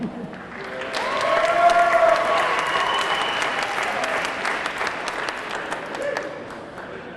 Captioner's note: audience clapping; audience cheering